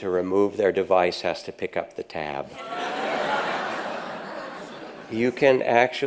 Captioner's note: audience laughs